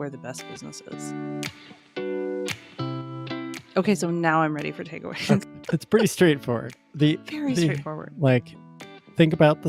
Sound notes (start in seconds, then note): 2.8 instrumental music plays; 5.2 laughs